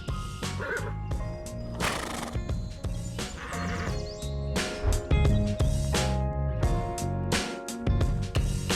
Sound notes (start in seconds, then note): 0.3 lighthearted music; 1.7 snorting neigh